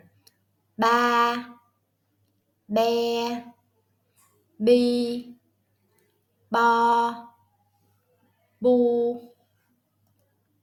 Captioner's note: Vietnamese